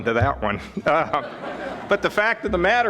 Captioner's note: audience laughing